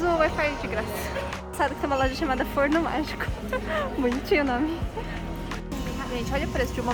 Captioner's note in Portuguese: risos